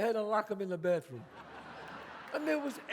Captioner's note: audience laughs